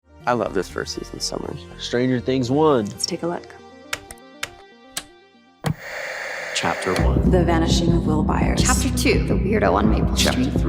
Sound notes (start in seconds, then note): 4.1 remote clicking